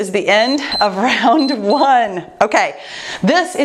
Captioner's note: timer beeps